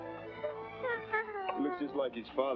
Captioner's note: baby coos